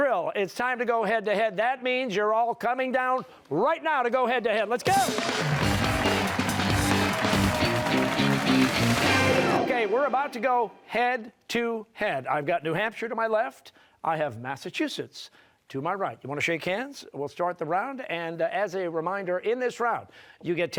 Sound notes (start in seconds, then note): 4.8 cheers and applause